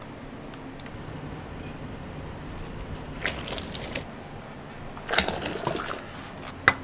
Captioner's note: return blowing